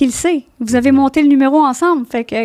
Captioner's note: in french